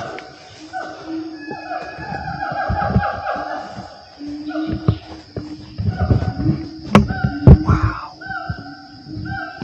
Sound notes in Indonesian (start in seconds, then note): 1.3 Suara Monyet